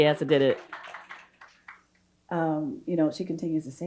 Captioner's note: audience applauding